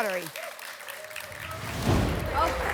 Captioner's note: applause and cheering cont; whoosh